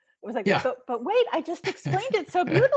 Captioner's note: giggling